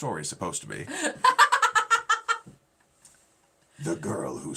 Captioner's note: laughing